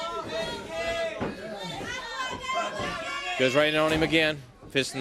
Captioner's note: crowd chattering